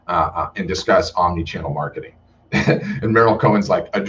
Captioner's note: laughs